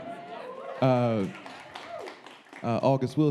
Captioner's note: audience clapping